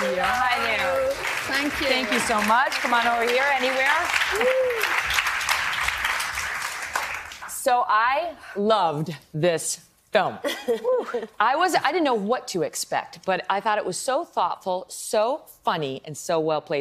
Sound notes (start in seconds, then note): 4.8 applause